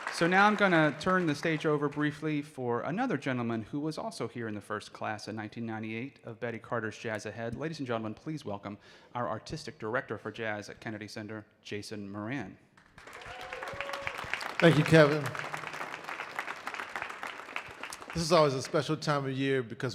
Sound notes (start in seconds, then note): 12.7 audience clapping